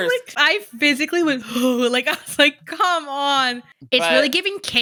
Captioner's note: gags